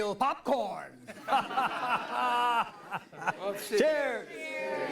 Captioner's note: everyone laughs